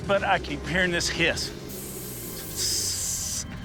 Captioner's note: hisses